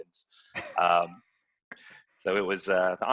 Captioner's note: laughing